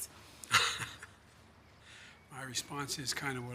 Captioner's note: laughs